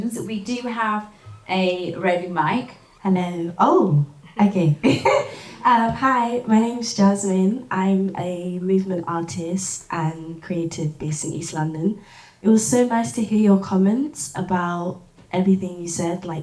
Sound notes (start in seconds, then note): 5.4 laughs